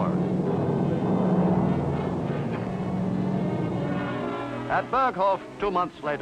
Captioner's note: dramatic music; plane engine humming